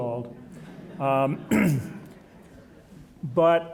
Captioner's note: audience chuckling